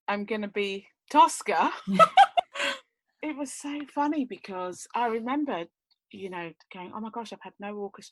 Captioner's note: laughs